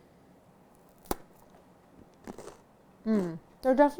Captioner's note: crunching